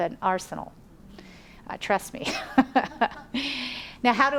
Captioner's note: laughs